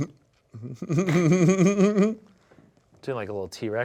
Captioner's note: laughs